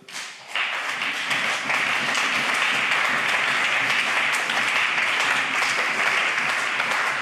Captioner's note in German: Beifall CDU und BÜNDNIS 90/DIE GRÜNEN